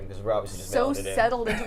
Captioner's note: laughs